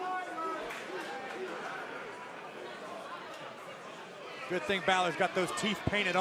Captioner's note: crowd chatter